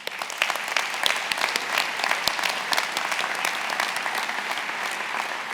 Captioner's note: applauds; attendees applauding